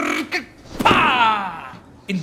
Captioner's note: gage hits the ground